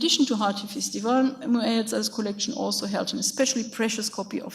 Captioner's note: speaks in a foreign language